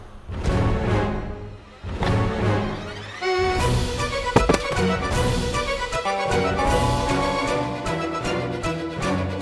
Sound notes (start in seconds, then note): 0.2 dramatic music; 4.4 thud; 5.6 comical music